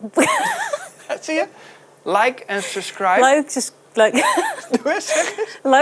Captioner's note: laughs; laughs